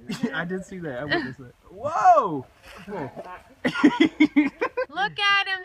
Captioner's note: laughs